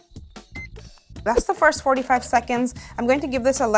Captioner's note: button beeps